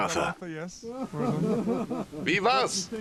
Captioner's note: photographers laughing; voiceover